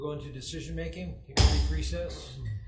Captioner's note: gavel bangs